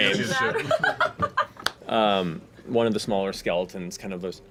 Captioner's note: laughs